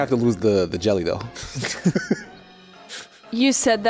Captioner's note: chuckles by himself